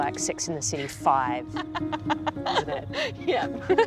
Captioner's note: both laugh; laughs